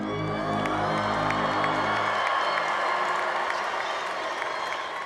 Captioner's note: congregation cheering